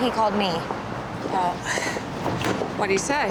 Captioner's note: sighs